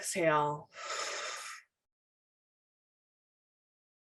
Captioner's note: exhales slowly